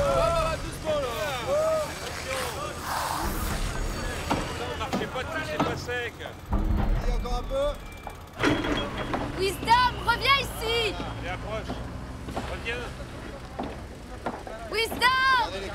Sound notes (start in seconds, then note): 1.3 hammers hammering; 1.3 saws buzzing